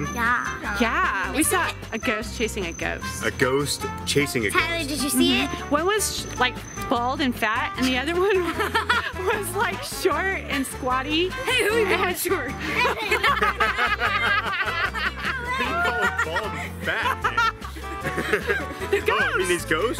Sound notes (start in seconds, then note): 12.6 group laughing; 17.3 laughs